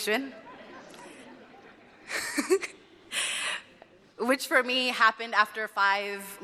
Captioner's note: laughter